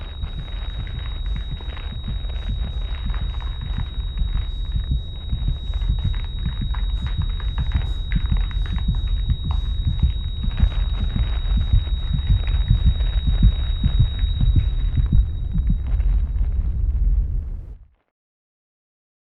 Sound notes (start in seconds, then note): 1.0 heart thumping